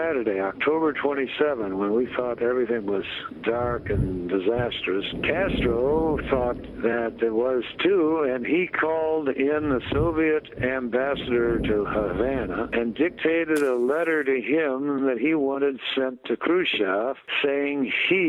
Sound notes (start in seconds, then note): none